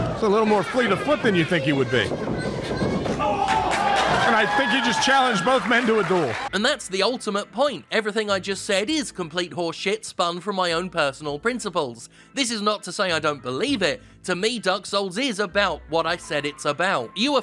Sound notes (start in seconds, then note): 2.7 people shouting; 3.2 audience applauding